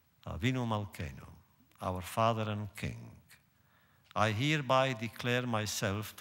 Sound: none

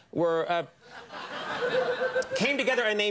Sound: audience laughing

